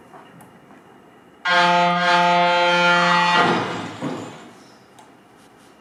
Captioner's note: truck horn followed by crash